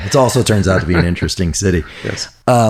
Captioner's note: laughs